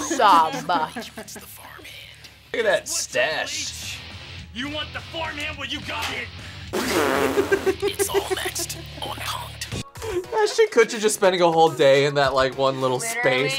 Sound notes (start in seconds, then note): 7.2 Bita laughs